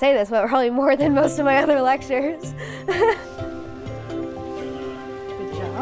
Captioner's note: laughs